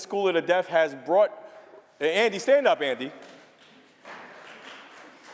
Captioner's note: applause